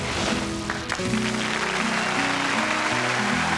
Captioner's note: applause